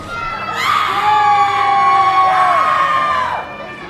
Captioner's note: cheers